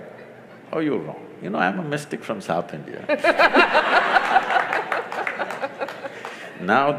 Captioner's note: laughter/Applause; 笑聲/掌聲